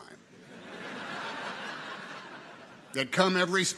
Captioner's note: audience laughs